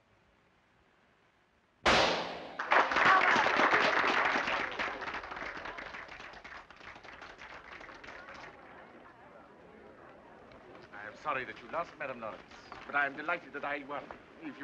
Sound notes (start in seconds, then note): 1.8 gun firing; 2.5 crowd applauding